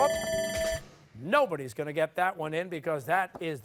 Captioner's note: buzzer